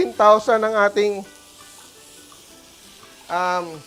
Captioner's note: sizzles